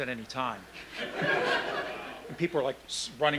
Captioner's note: laughing